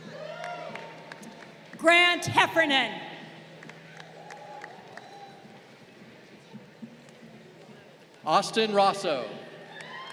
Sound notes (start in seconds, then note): 0.1 crowd applauding; 3.5 crowd applauding